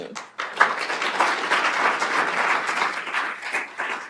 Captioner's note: applause